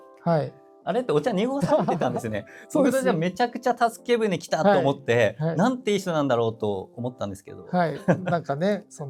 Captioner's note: laughs